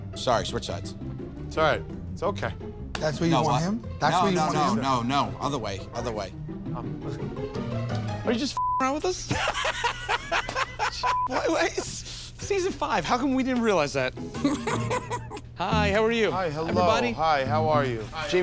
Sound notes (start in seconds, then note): 9.3 laughs